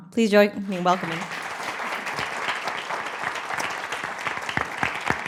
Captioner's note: applause